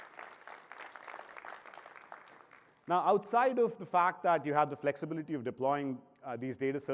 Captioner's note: applause